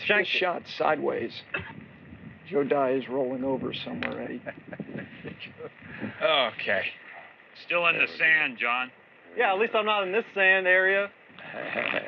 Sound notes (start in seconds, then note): 4.2 chuckles